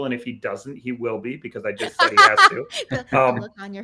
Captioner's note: laughs